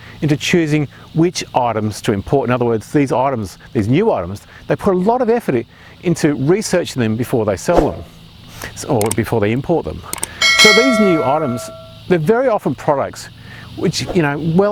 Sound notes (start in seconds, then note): 10.1 mouse clicking; 10.1 bell dings